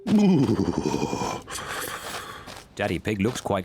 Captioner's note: shivers